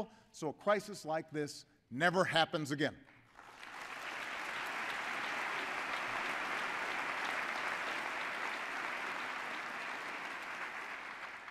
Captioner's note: applause